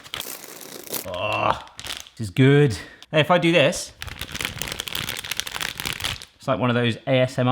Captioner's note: crinkling bag